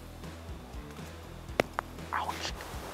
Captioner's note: acorn thumps